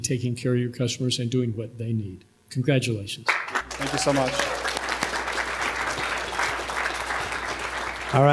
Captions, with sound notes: taking care of your customers and doing what they need. Congratulations. [APPLAUSE] >> Thank you so much.